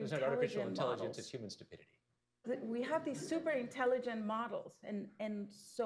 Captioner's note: laughter